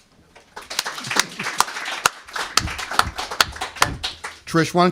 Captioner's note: applause